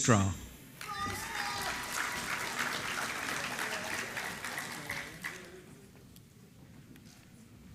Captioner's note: applause